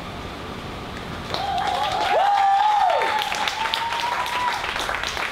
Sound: audience applauds and cheers

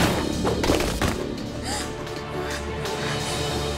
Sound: gasping

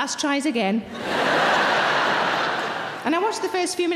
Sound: audience laughing

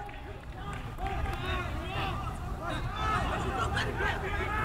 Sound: players talking and yelling

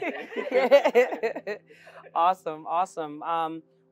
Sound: laugh

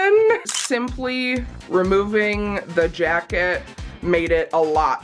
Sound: camera snaps

